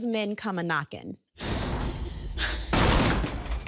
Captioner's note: breathing heavily; banging